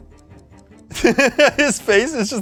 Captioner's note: laughs